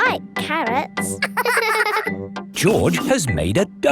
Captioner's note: both laughing